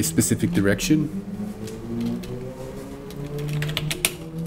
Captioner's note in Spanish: typing